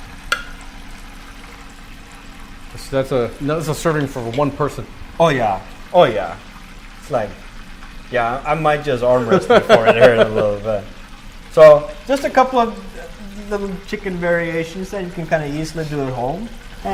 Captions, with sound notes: So that's a-- that was a serving for one person. Oh, yeah. Oh, yeah. Yeah. I might just order it before it airs a little bit. [LAUGHS] So just a couple of the chicken variations that you can kind of easily do at home.